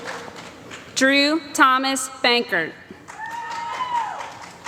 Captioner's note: applause